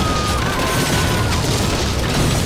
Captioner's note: people screaming